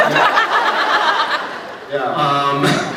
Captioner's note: laughs